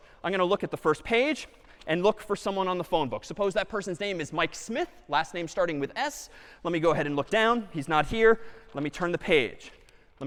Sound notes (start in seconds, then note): none